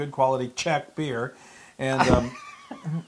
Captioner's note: laugh